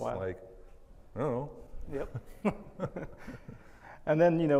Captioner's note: laughs